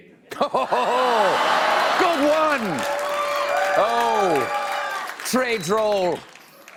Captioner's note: laughter